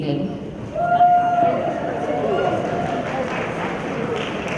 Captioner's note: applause